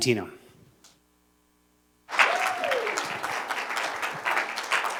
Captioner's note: cheers and applause